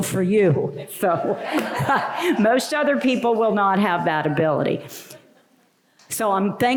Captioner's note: laughter